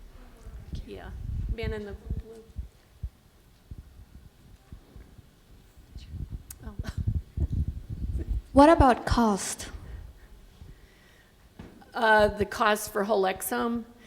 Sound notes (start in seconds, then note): 4.0 laughs